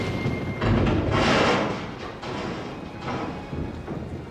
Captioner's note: loud rumbling